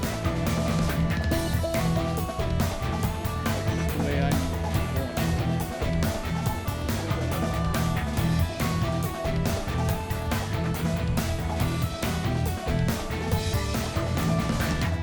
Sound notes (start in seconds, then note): 2.8 people chattering; 2.8 upbeat music